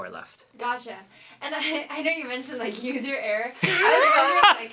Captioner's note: laughter